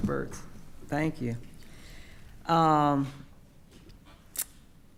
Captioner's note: whispering